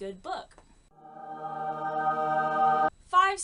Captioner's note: angel choir sound effect